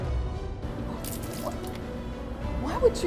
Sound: suspenseful music; water splashing

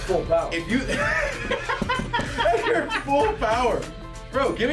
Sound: laugh

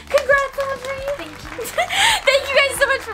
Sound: applause

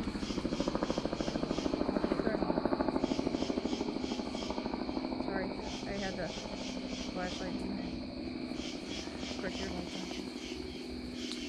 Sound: helicopter flying over

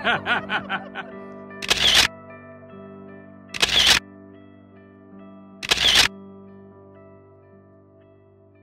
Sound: laughter; camera Shutter Noise

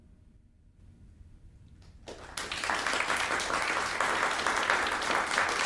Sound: audience applauding

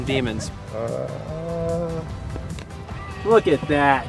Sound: groaning

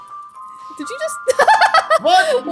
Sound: laughs

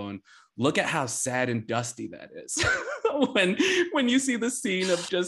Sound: laughs

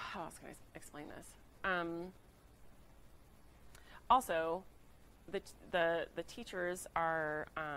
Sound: none

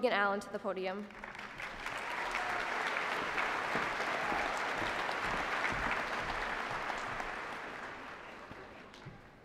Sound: applause

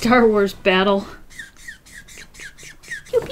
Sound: marker squeaks

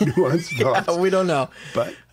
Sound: laughter

